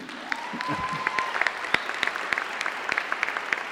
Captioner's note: applause